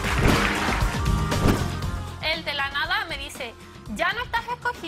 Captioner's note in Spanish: aplausos